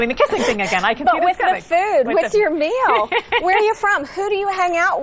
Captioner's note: laughs